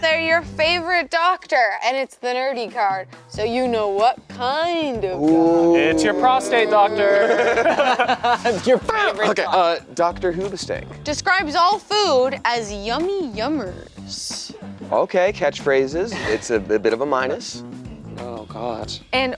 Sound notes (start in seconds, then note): 5.7 laughing